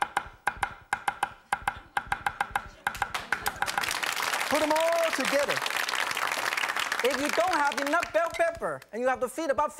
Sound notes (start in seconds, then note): 1.7 knife clacks; 6.1 audience claps